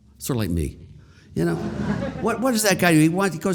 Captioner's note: audience laughter